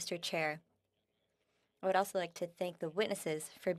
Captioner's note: speaking French